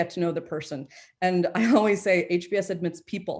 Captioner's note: chuckles